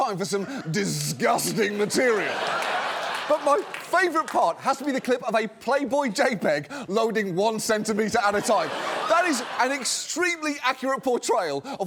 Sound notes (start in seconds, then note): 1.5 laughter